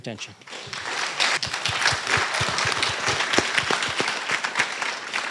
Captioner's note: applause